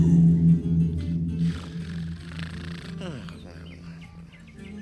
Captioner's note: snores